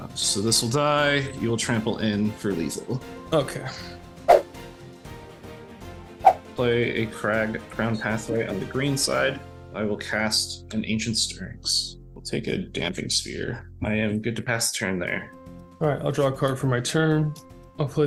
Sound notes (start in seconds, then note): 4.2 air whooshing; 5.2 dramatic music; 6.2 air whooshing